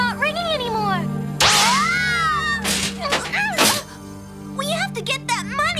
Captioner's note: screaming